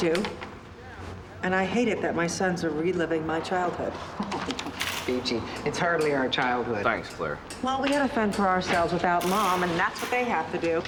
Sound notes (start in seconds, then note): 3.2 laughs